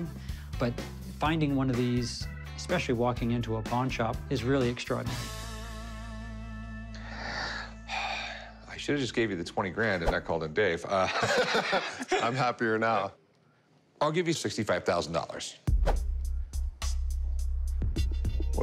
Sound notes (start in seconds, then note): 6.9 sigh; 11.0 laughing